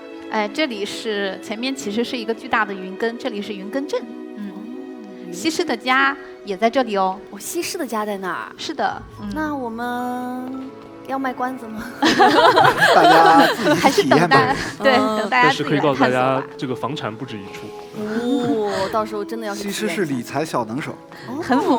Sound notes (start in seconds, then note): 7.4 surprised; 11.9 laughs